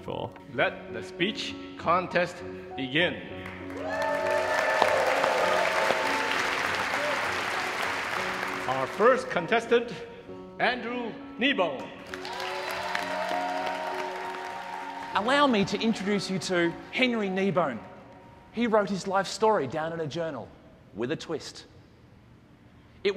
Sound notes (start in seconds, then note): 3.4 audience applauds; 12.0 audience applauds